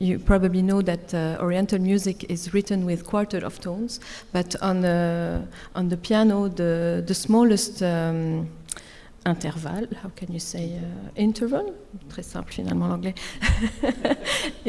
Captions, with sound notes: You probably know that oriental music is written with quarter of tones. But on the piano, the smallest interval, how can you say, interval (speaks French)